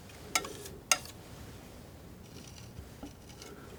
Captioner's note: tapping; tapping